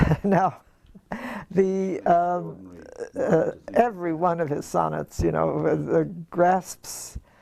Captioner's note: laugh